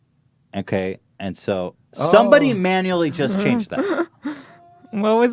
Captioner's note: laughs